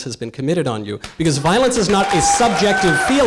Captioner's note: audience cheering and applause